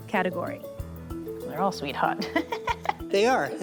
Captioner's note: laughs